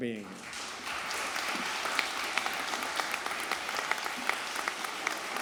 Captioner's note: audience applauding